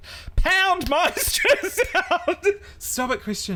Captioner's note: laughs genuinely